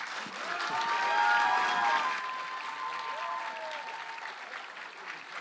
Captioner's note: cheers, applause